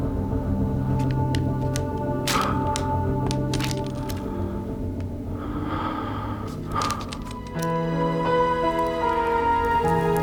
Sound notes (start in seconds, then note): 7.0 lighter clicks